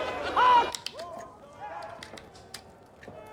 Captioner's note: children laughing